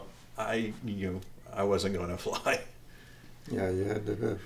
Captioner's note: chuckles